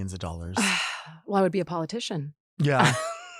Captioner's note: sighs; laughs